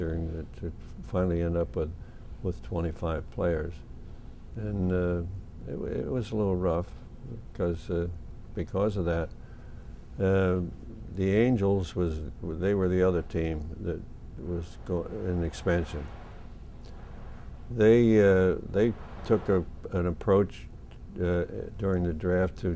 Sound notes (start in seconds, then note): none